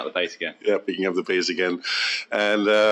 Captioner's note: laughs